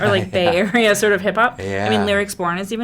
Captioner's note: Randall laughs